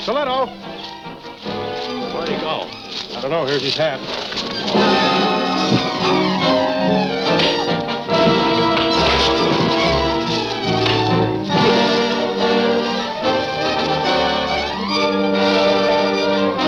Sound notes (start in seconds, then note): 0.4 dramatic music continues; 4.9 dramatic music continues; 7.0 punch sound; 8.9 dramatic music continues